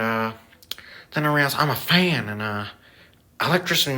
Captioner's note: lip smack